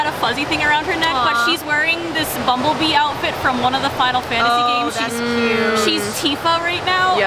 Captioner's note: awwwww